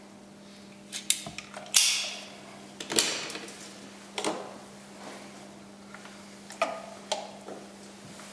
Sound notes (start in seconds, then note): 1.8 snap